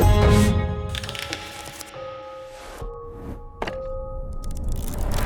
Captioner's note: book pages flicking